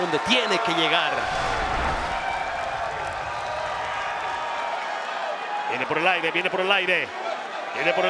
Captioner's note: applause